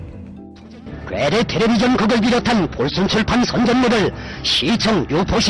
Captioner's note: Korean